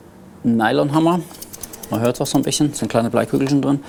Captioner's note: rustling